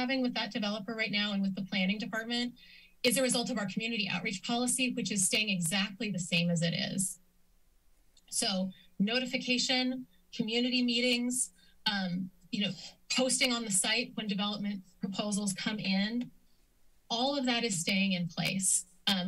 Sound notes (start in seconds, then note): 7.5 silence